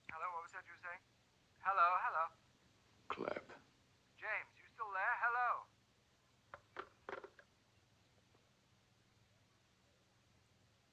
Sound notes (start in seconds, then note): 6.6 click